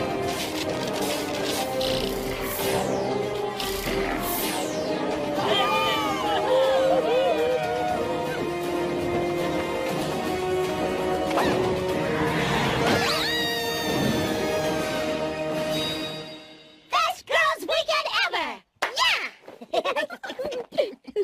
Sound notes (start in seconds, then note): 0.1 electricity crackling; 5.4 villagers cheer; 12.9 screams; 19.4 laughs and giggles